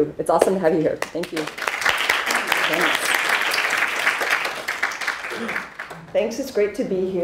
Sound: audience applauding

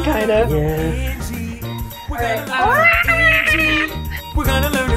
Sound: dinosaur noises

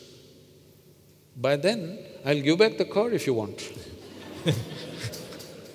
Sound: laughter

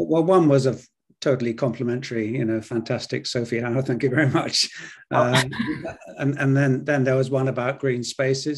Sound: both laugh

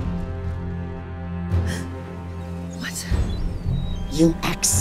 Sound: gasp

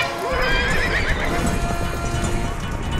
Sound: horses whinny; horses galloping

